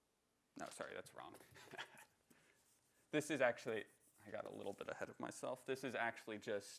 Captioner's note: laughter